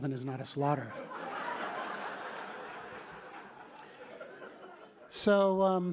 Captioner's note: laughter